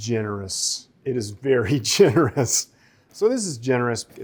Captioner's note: chuckles